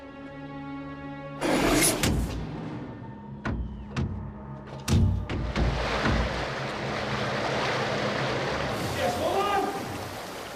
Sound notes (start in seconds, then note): 1.4 door whooshing; 3.5 Jess banging; 5.5 water whooshing